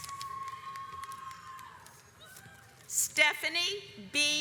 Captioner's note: audience applauds